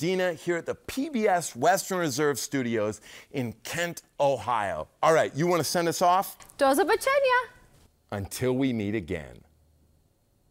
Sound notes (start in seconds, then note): 6.8 says goodbye in Polish